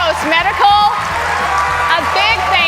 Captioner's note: cheers and applause